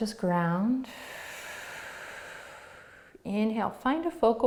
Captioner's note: exhaling